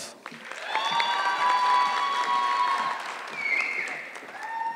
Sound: audience clapping

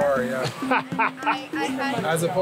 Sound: laughs

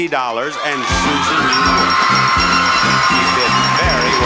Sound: upbeat music; bell chimes repeatedly

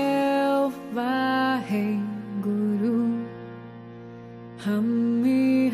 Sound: chanting in foreign language

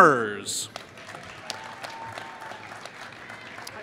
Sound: applause

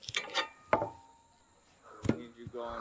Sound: tools clang

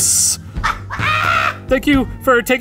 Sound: laughs

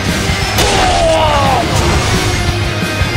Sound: KO Scream

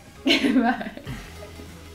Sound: giggle

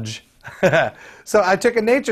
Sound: laughing

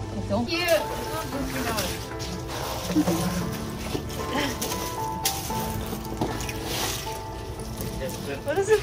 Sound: background music; ice shuffling noises; scrabbling noise

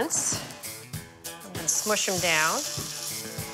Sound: potatoes sizzling

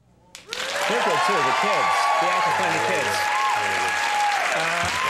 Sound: audience applauding

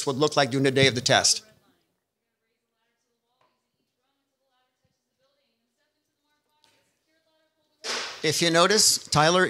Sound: silence

